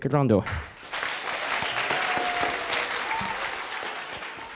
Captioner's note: applause